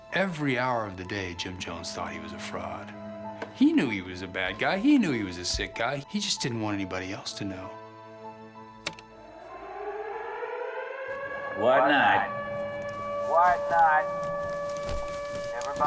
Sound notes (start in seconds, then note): 9.1 sirens